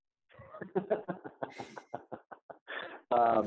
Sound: laughs

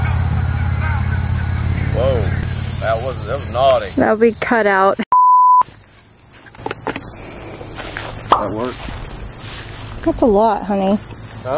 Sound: car driving

